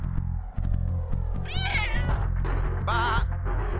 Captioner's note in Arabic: صراخ القط